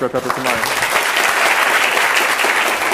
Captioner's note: applause